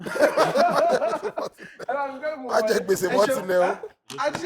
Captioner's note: laughs